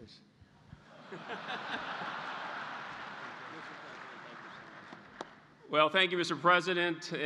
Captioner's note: laughter